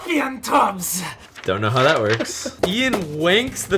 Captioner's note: laughs